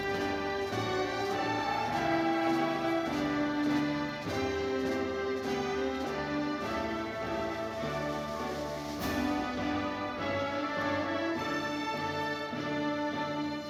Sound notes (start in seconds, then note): 0.0 audience cheering